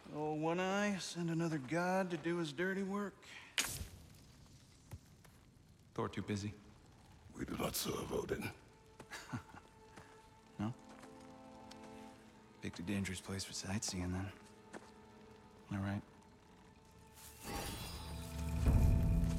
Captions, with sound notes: Ol’ one-eye send another god to do his dirty work? Thor too busy? We do not serve Odin. (laugh) No? Picked a dangerous place for sightseein’, then... ...am I right?